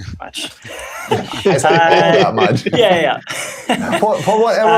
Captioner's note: laughter